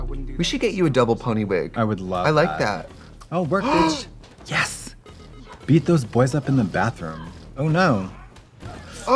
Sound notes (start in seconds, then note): 3.6 Trixie gasps